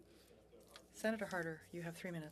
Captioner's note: speaking French